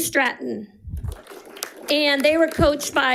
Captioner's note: audience applauding